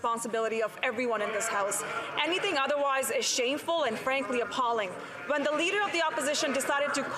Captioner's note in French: voix de l'interprète